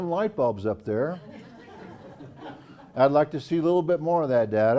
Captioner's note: laugh